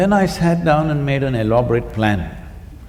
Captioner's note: none